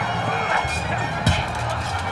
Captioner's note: punch